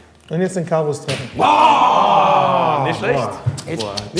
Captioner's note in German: Geräusch der Anerkennung dieser Leitung